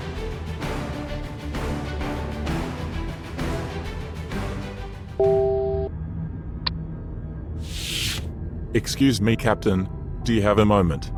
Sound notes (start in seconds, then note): 0.1 intense music; 5.1 door chime; 6.7 click